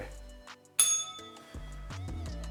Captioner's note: bell rings; upbeat music